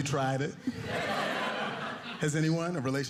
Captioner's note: audience laughing